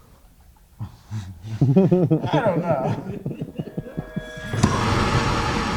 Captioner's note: laughing; dramatic music